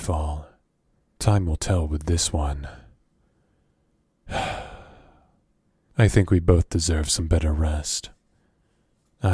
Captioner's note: sigh